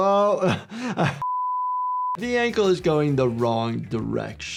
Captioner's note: laughs; one mHz test tone beeps